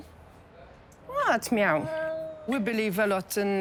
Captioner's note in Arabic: مواء قطة